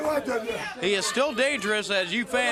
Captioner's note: crowd chatter